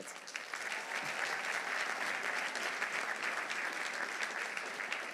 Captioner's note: audience applauding